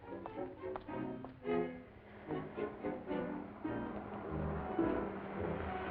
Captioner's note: vehicle approaching